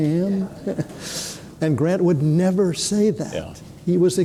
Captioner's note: chuckles